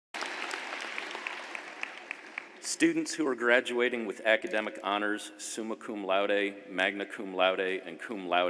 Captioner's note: applause